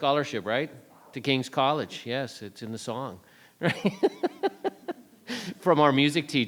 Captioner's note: chuckling